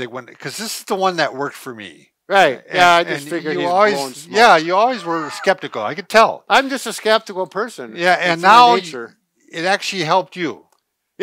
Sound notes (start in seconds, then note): 2.8 chatters